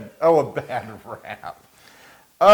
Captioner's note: laugh